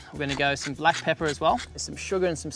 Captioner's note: pepper grinds